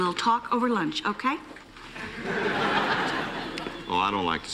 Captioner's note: laughter